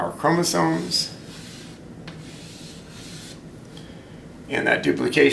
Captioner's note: chalk scraping